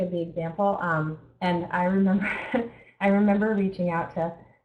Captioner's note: chuckles